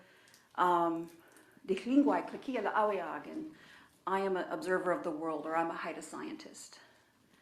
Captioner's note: speaking in own language